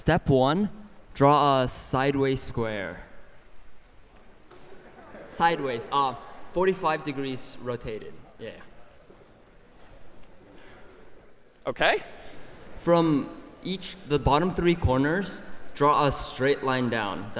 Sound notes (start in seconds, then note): 4.8 laughter